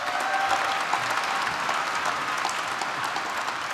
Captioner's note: applause